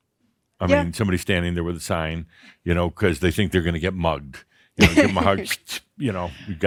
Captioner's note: she chuckles